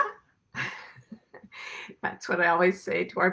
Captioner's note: chuckles